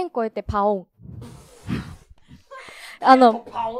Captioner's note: laughs